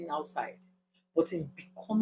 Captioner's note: paause